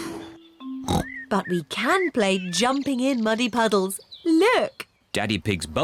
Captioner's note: oinks